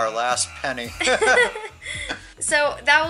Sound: laughing

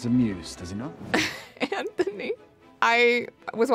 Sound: chuckles

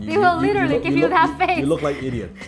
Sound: laughs

